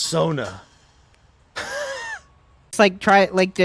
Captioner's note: small scoff of a laugh